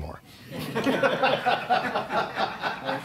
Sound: laughter

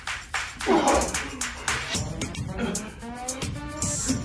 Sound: grunts of pain; gasping

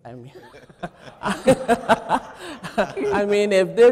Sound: chuckling

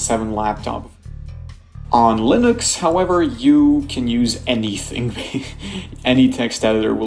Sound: chuckles

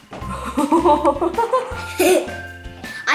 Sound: mom laughs; laughs

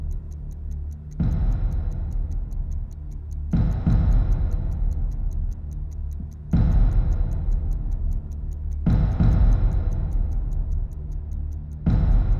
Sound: clock ticking

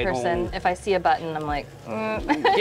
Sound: laughs

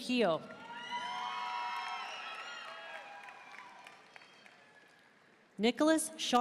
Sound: audience cheering and applauding

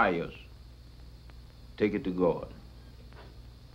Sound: none

